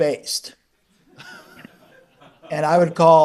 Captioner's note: attendees laugh